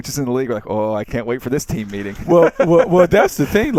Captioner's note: laughs